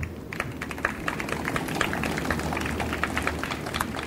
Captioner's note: audience applauds